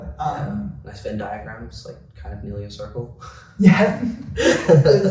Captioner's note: laughs